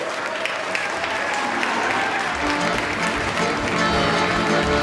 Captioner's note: audience clapping